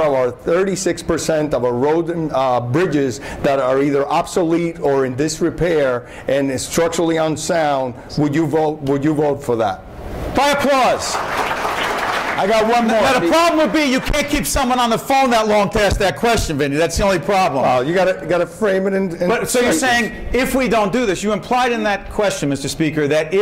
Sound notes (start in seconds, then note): 10.8 applause